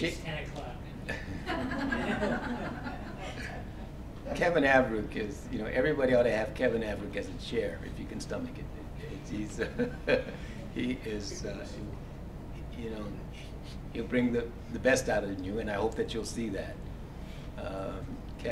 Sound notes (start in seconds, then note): 1.0 laugh; 9.6 laugh